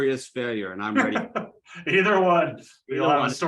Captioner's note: laughs